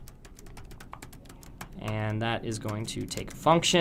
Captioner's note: typing Noises